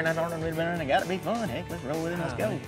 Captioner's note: auction voice